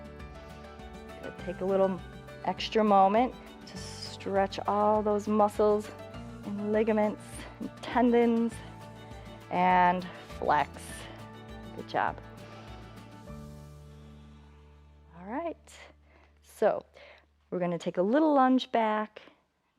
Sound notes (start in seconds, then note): 12.2 inhales and exhales